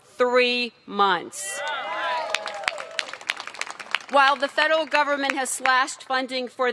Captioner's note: cheers and applause